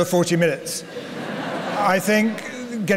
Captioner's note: laughter